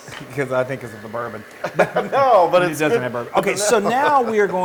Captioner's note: laugh